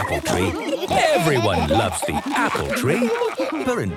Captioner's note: laughter